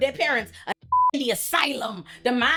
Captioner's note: beep